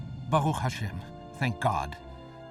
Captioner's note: speaking foreign language